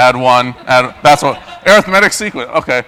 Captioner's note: laugh